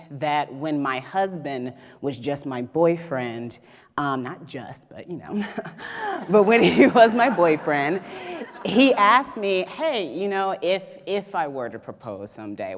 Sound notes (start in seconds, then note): 6.2 audience laughs